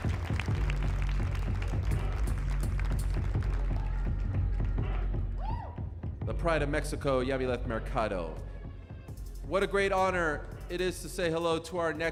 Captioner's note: cheers and applause